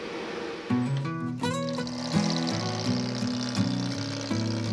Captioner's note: machine whirring